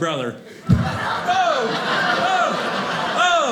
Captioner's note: audience laughing